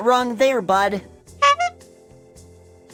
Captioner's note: honk sound